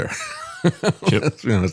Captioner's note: laughs